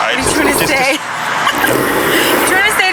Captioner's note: laughs